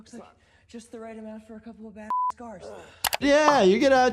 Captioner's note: beep